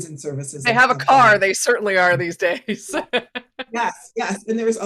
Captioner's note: chuckling